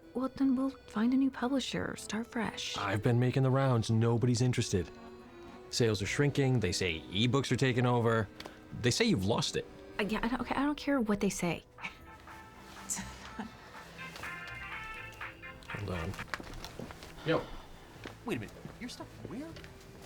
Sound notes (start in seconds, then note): 11.8 dru scoffs; 14.1 cell phone rings